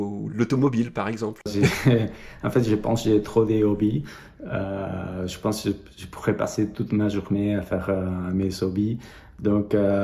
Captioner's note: laughs